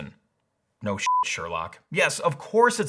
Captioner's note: beep